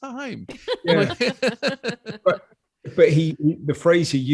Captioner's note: all laughing quickly